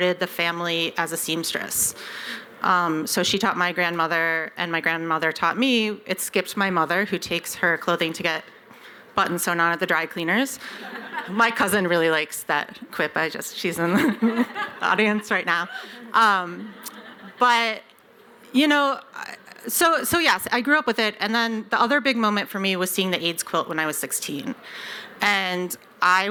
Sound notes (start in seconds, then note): 10.7 laughter; 16.6 laughter